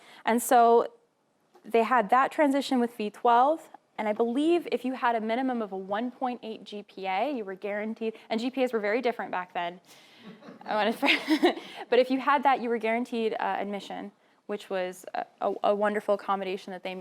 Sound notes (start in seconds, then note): 10.5 laughing